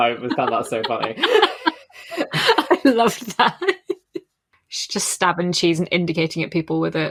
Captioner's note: laughing